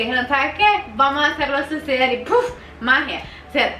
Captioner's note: puff